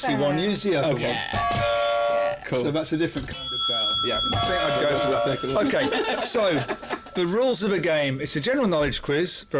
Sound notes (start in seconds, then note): 1.7 ding-dong